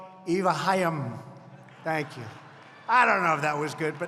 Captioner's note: laughter